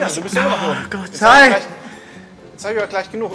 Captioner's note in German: laut